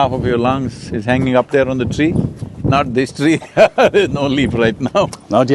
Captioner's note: laughs